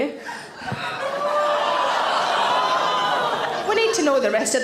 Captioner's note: audience gasp and groan